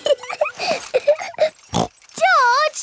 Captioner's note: laughs and snorts